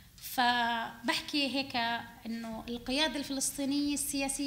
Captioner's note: speaking arabic